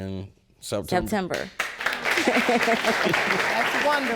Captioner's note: audience applauds; laugh